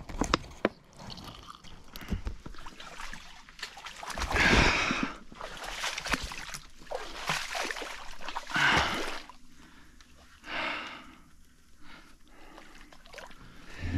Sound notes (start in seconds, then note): none